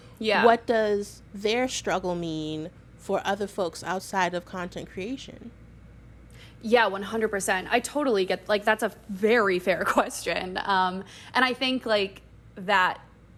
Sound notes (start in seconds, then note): none